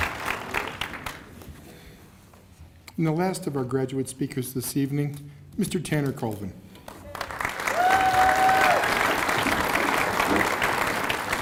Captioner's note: applause